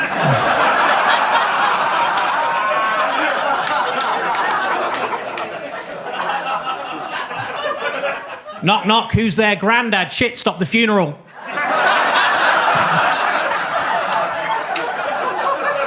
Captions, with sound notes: (audience laughs) Knock, knock, who's there? Grandad. Shit, stop the funeral! (audience laughs)